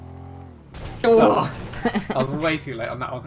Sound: chuckles

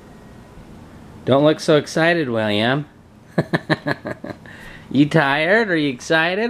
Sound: laughs

